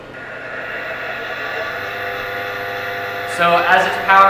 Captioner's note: machine buzzing